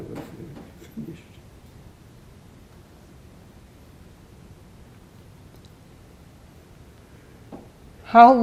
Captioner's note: pauses 6 seconds